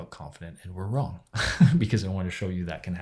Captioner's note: laughs